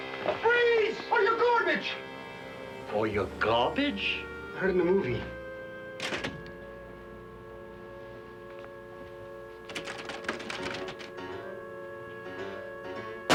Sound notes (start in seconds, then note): 6.0 door clicks; 7.5 tense music; 9.6 clicking; 12.0 tense music